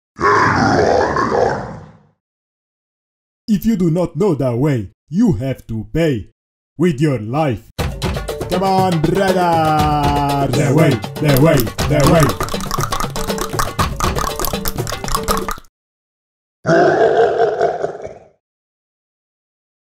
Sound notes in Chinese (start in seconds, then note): 7.8 召喚bgm再次響起; 14.7 大量彈舌